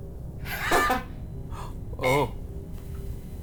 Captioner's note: laughing